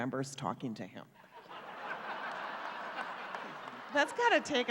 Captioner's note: laughter